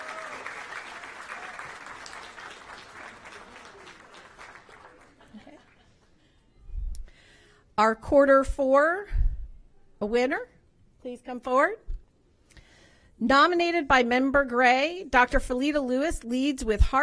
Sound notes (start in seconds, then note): 4.4 applause